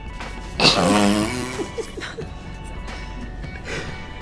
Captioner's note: both snicker